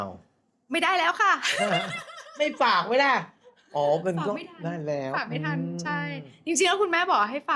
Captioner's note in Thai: เสียงหัวเราะ